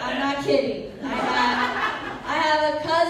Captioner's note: laughter